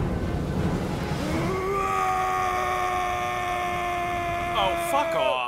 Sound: Strasse screaming in rage

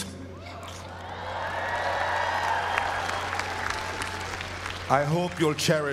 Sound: applause

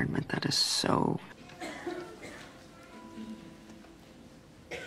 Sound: cough, cough

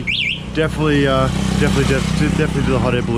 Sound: scooter engine roaring

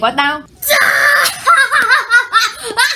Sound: laughing

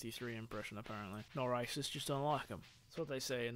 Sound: stereotypical british accent

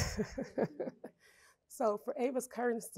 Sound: chuckle

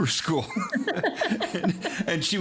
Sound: laughing

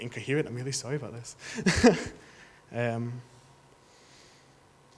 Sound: chuckles

